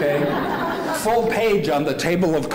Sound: laughing

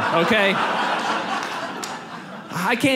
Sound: audience laughs

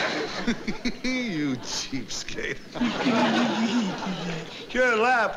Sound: chuckles

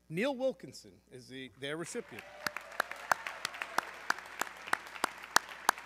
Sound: audience cheering

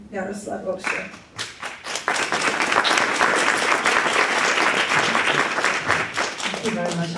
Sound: applause

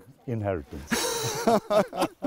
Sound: laughter

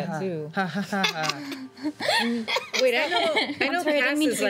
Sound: laughing

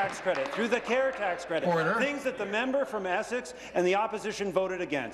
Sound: applause

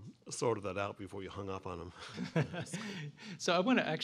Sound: laughter

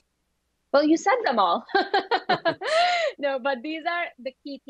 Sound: laughs

